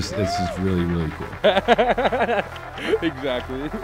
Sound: laughs

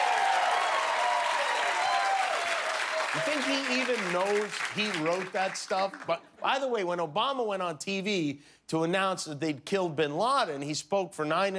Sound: cheers and applause

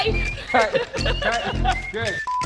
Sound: laughing

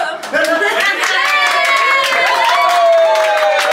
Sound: cheering

